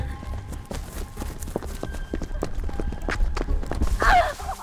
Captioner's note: suspenseful music continues; shoes clacking; Heather screams